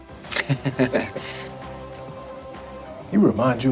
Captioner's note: laughs